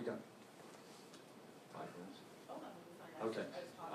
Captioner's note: whispers...5 minutes? Okay